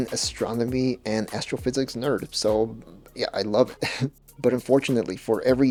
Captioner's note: laughs